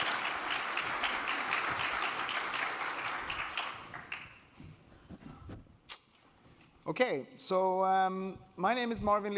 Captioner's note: applause